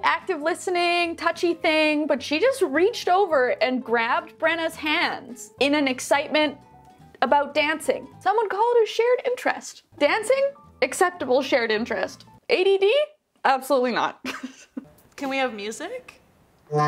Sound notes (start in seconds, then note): 14.6 laughs